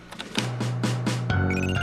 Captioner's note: beeping